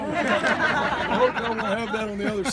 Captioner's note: laughter